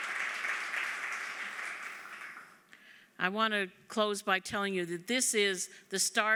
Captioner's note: applause